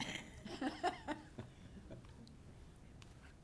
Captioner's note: laughing